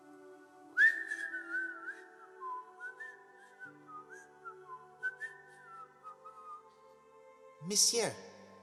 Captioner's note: whistling